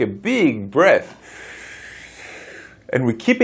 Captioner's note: breathing